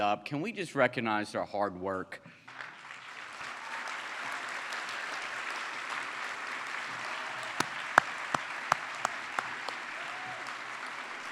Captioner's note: applause